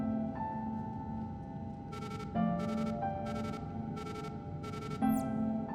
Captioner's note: device beeping